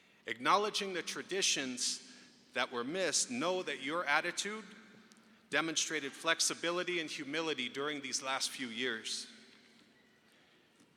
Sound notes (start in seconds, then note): none